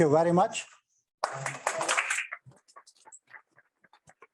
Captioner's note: applause